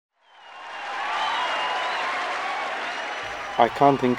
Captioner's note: crowd cheering